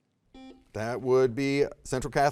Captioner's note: soft beeping